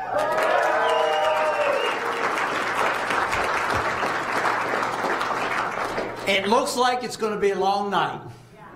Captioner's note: applause